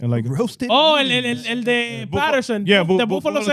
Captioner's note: speaking In Foreign Language